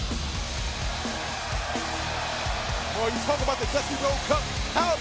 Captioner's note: crowd cheering